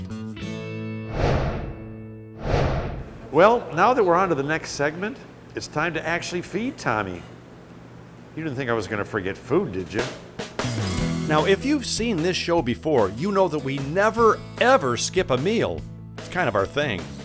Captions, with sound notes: (swooshing) Well, now that we're onto the next segment, it's time to actually feed Tommy. You didn't think I was going to forget food, did you? Now, if you've seen this show before, you know that we never ever skip a meal, it's kind of our thing.